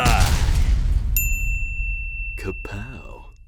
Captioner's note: man yelling; stone slamming; bell dinging